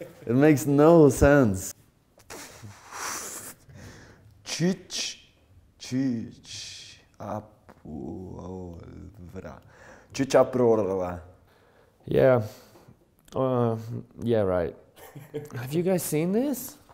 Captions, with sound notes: it makes no sense! *confused mumbling* "Tschütschpuololololvra" yeah... uh... yeah right! Have you guys seen this??